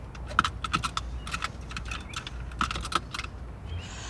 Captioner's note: seatbelt clicks